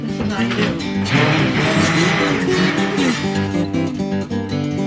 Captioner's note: blender whirring